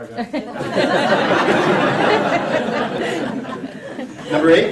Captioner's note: laughter